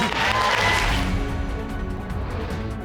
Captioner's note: audience clapping and cheering